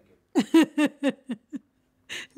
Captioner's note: laughter